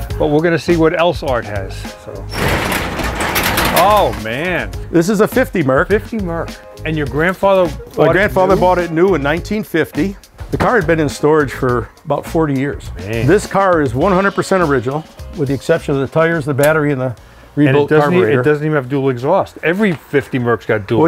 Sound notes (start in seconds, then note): 2.2 garage door creaking